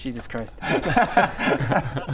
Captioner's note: remorseless giggles